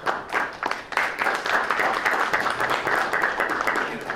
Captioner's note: applause